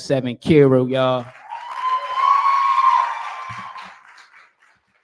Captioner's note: cheering